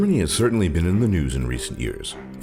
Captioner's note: voiceover